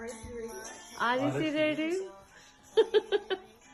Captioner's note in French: rire